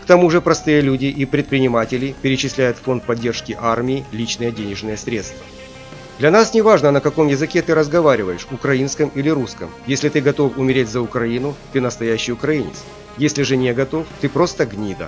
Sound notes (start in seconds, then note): 8.3 ukrainian or Russian